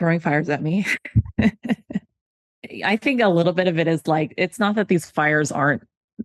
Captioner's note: laughs